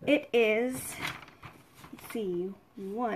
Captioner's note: paper rustling